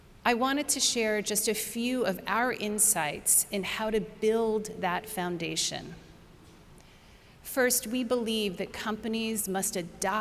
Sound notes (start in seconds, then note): none